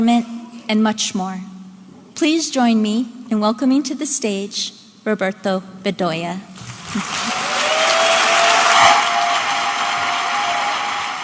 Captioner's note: audience applauding